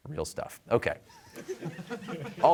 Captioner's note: laughter